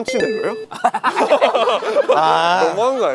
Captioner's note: laughing